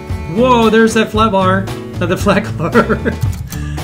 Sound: laughing

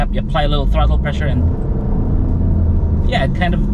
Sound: engine revs

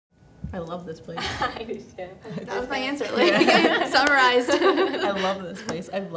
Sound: others laugh in agreeance

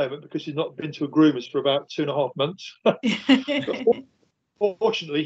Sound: laughing

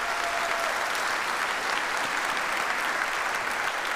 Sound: audience applauds

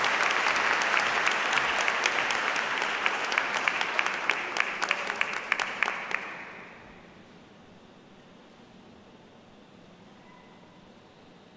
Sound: applause

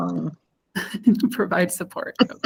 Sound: chuckles

